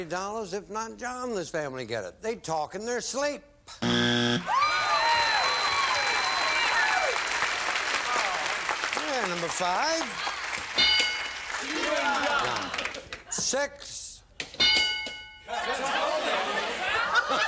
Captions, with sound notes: If it's there, you get the $90. If not, John and his family get it. They talk in their sleep. (buzzer) Number five? -Chewing gum. -Six? -Cut toenails.